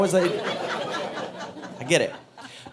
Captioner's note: audience laughing